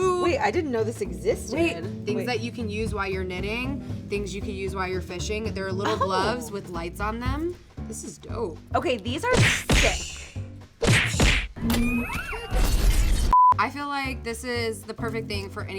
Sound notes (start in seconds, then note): 11.5 blasters firing